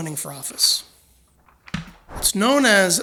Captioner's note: papers rustling